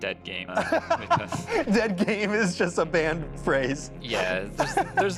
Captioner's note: laughs